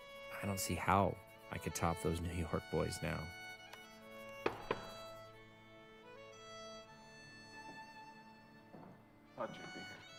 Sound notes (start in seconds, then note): 6.1 knock on door